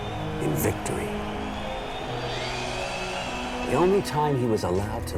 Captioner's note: crowd cheering